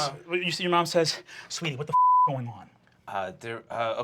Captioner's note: beep